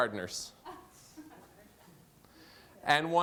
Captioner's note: laughter